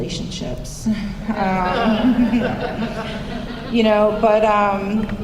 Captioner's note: laughter